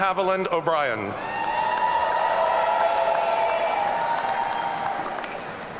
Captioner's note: audience cheering